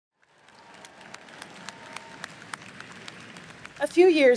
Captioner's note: audience applauding